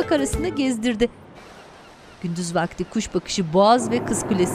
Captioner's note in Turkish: Martı sesleri; Araba sesi